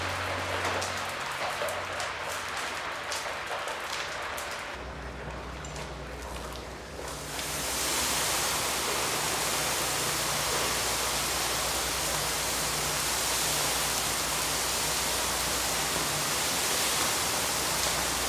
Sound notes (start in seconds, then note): 7.2 liquid splashing sound